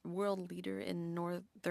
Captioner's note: speaking French